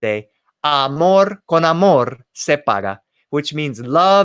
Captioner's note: spoken in foreign language